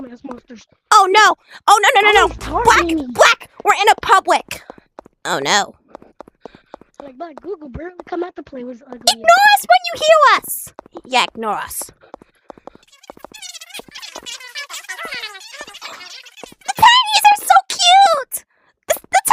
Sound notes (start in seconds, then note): 13.1 tiny talking